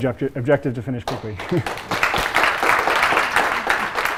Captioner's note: applause